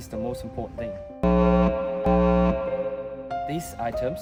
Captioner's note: alarm sound